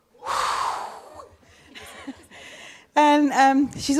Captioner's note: blows air through lips